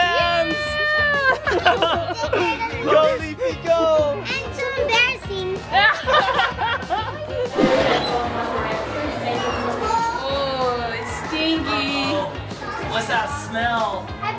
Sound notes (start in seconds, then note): 1.2 laughter; 5.7 laughter; 7.5 loud background chatter